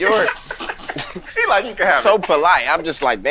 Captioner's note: group laughing